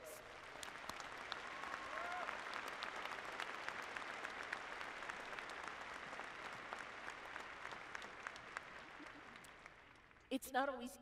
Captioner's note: applause